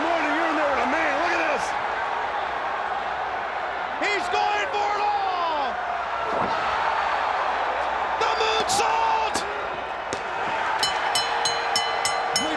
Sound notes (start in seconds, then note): 6.5 audience cheers; 10.8 bell